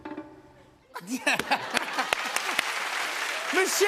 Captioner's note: laughter